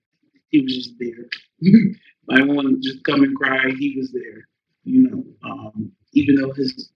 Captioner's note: laugh